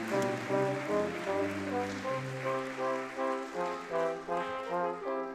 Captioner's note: audience clapping